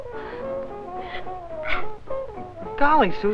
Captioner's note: soft sobbing